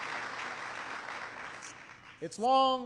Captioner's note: applause